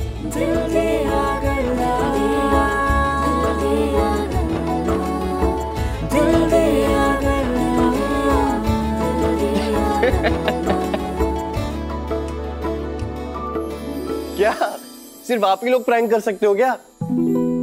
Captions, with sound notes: [title song playing] [laughing] What? Only you two can play a prank?